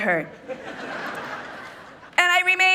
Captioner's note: people laughing